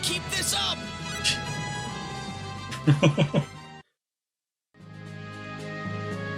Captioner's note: laughs